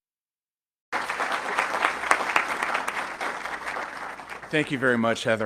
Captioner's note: audience clapping